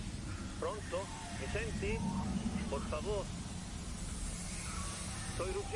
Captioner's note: voice on the phone